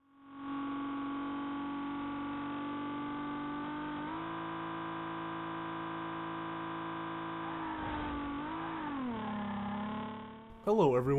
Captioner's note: High-Quality Nissan 350Z engine sound